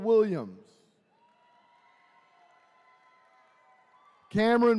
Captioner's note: attendees cheering